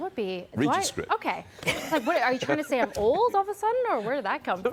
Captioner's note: laughter